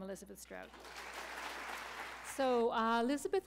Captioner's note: applause